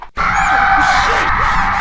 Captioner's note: john screams